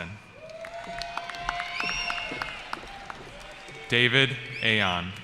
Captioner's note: cheering